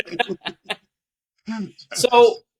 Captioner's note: laugh